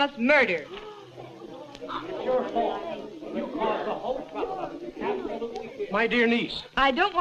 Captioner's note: clamor